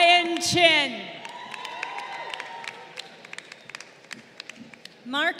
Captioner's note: crowd cheering